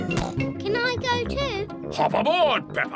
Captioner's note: snorts